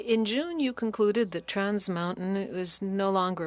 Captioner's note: speaking French